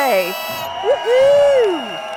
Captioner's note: cheers and horns blowing